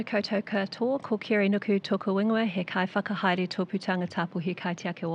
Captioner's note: speaking foreign language